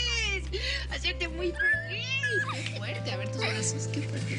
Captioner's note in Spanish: Risas